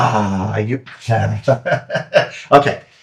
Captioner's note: laughing